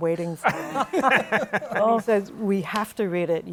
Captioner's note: laughter